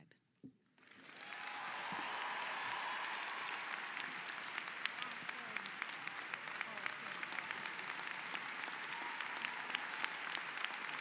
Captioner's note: applause